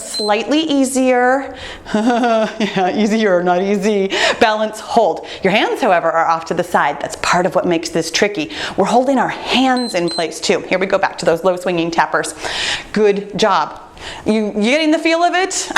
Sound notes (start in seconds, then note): 1.8 laughing; 9.7 timer beeps